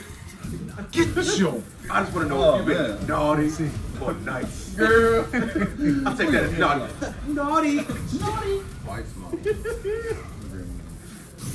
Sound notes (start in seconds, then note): 4.8 laugh